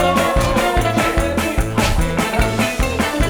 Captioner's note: arguing and shouting